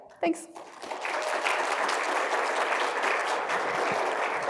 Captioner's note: audience clapping